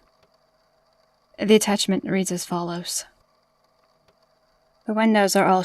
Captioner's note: wind, creaking, drones fade in and crescendo throughout